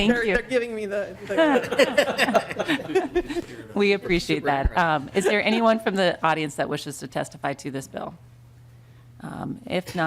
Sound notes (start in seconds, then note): 5.1 laughter